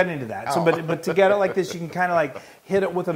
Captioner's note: laugh